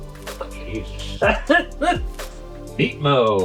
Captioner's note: laughing